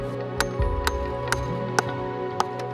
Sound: metallic tapping; peaceful electronic music

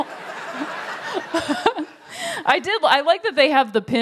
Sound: laughter

